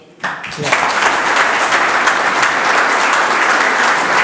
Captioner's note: audience applauds